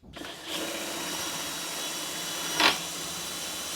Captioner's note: drilling sound